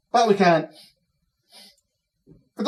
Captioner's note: Cataliss sniffs